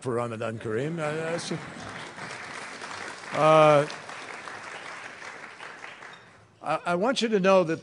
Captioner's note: applause